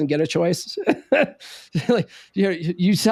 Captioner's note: laughs